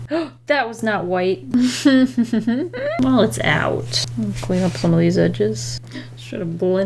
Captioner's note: annoyed laugh